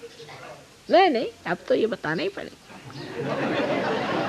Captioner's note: laughs